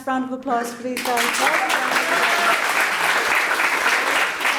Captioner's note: audience applauds